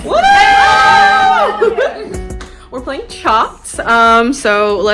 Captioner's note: cheering